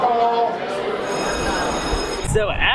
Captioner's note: bell rings